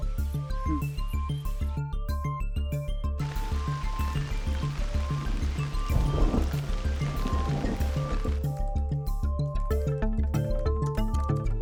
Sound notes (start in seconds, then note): 5.9 thunder rumbling